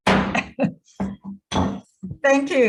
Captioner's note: gavel bangs